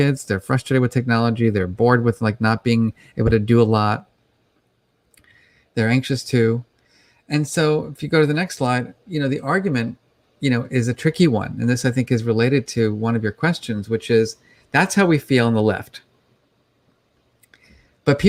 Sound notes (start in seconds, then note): none